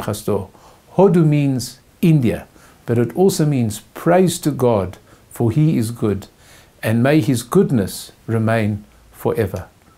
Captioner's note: in Hebrew